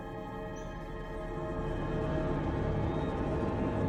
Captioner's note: birds singing